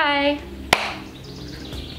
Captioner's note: clap